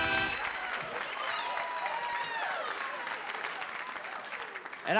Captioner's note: cheering, applause